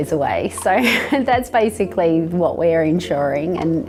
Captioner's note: laughs